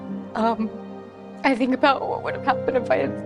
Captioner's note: voice trembles